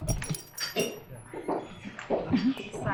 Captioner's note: bell ringing; door opening; footsteps